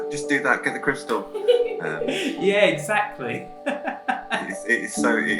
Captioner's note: laughs; laughs